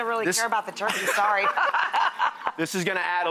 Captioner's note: laughing